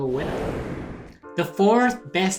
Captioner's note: whooshing